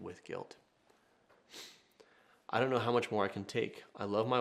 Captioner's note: sniffs